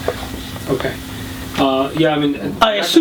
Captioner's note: voiceover